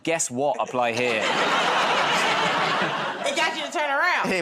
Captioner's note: laughter